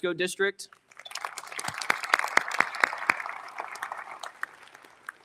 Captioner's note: audience applauding